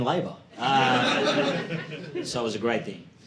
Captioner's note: audience laughing